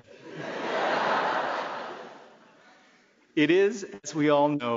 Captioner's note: laughing